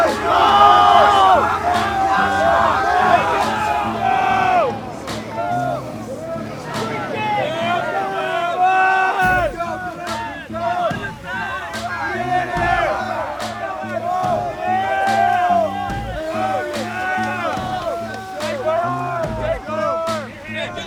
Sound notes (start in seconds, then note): 1.5 yelling continues; 6.4 yelling continues; 12.6 yelling continues